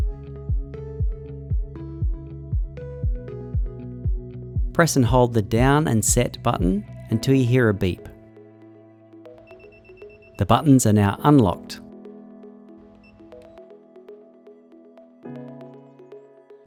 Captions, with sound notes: Press and hold the DOWN and SET button until you hear a beep. (opener beeping) The buttons are now unlocked. (upbeat music continues)